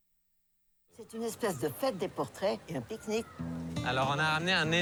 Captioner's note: speaking french